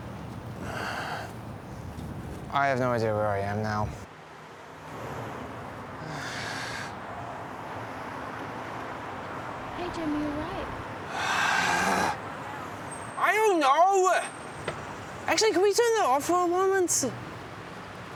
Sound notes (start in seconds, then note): 6.0 sighs; 11.2 grunts